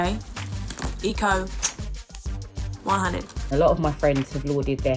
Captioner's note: kisses